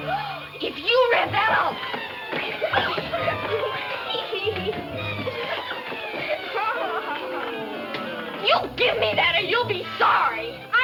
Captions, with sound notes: If you read that, I'll-- (dramatic music) (laughs) You give me that, or you'll be sorry.